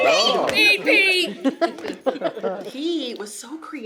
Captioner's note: laughter